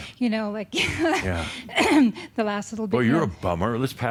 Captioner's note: she chuckles